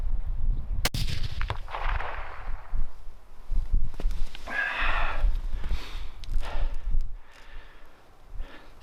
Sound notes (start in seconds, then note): 0.8 gun fires; 4.4 sighs